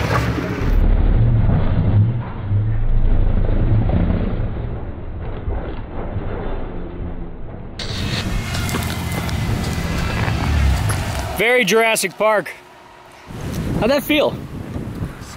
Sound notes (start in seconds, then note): 1.3 slow motion revving; 7.8 static sound